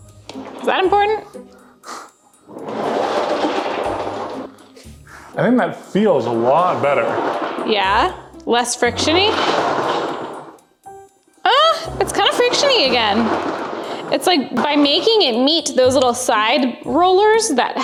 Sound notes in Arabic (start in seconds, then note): 1.9 يسخر; 2.4 تهز عجلة القيادة بصوت عالٍ; 9.6 خشخشة العجلة بصوت عالٍ